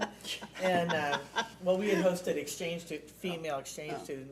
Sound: laughing

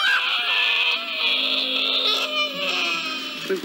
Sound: crowing Continues

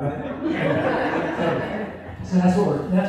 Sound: laughter

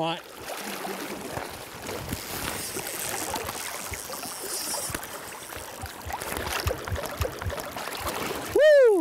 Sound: water lapping

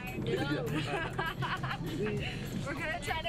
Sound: laughing

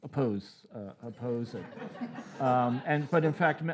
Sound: audience laughing

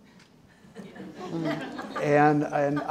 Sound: audience laughing

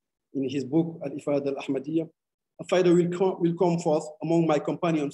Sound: speaking arabic

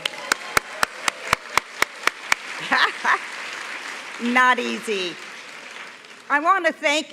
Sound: applause

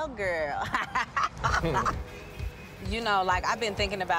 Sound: laughs

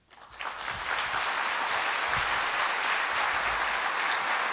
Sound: audience applauds

